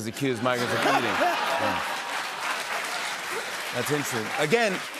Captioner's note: laughter and applause